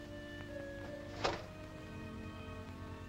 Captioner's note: ominous music; shades click shut; ominous music